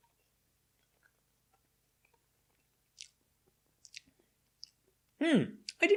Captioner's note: chewing noises